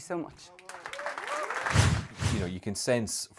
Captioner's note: applause